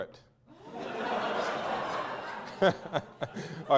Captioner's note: audience laughter